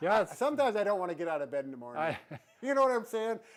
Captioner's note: chuckles